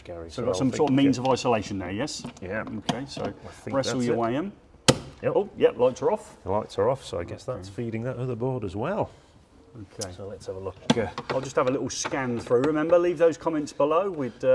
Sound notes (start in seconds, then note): 4.7 switch clicking